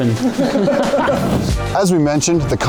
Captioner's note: crowd laughing